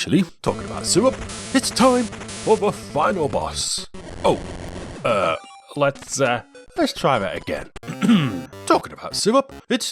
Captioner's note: ahem